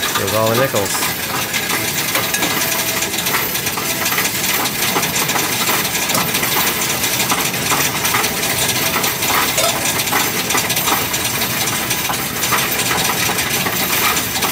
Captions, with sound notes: There's all the nickels. (coins rattling)